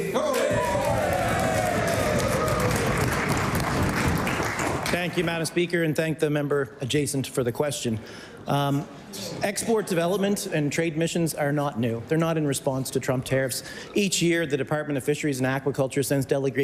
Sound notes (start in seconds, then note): 5.5 cheering/Applause